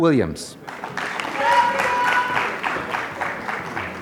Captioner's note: applause